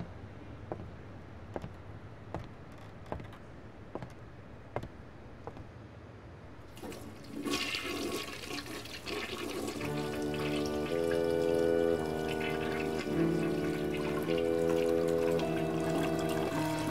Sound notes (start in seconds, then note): 0.3 footsteps; 7.3 toilet flush; 9.8 creepy music